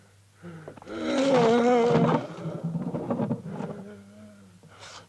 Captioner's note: Kurt groans